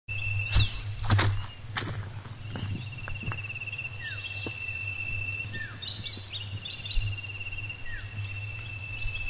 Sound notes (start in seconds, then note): 0.4 footsteps